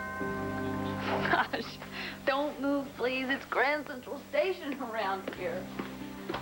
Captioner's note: dooell rings